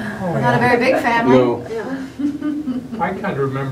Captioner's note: laughter